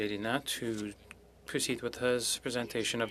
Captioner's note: speaking french